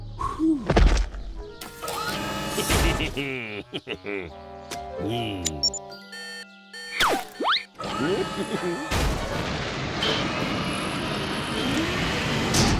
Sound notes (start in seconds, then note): 2.6 giggles; 5.4 beeping; 8.0 giggles